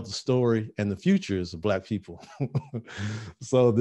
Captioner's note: laughing